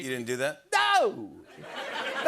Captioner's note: laughter